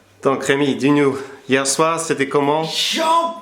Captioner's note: French